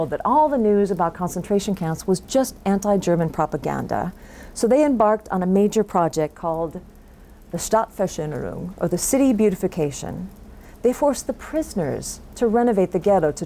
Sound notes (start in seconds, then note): 7.4 foreign language